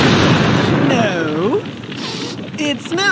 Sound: sniffs again

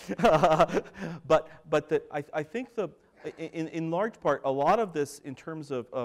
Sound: laughter

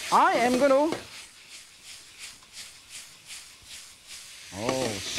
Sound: chicken meat sizzling

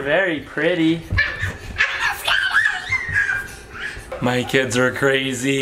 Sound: squeals

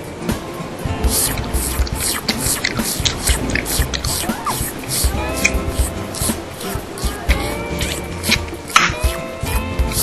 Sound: gum Chewing

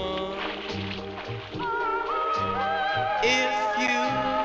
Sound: water splashing

